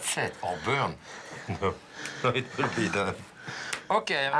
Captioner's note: laughs